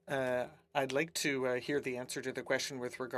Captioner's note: speaking French